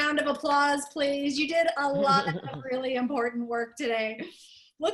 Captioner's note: laughter